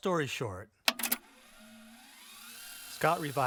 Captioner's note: rewind whirring